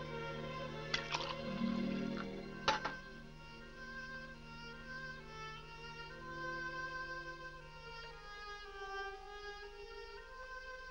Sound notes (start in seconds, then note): 0.8 liquid pouring